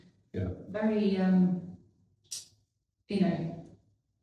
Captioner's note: clicks tongue